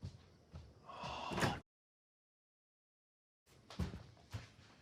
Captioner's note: Nate sighs